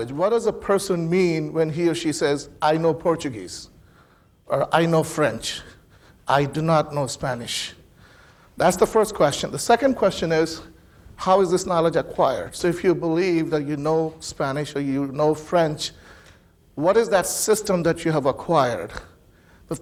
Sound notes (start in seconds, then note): none